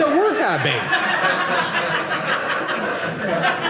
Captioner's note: audience laughing